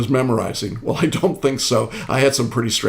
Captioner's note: chuckling